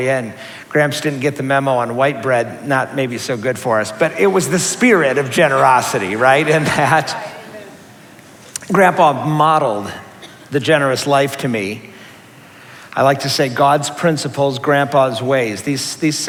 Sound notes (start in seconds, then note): 5.9 murmuring